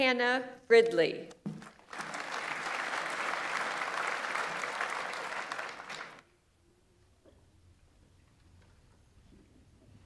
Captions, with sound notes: Hannah Fridley. (audience applauds)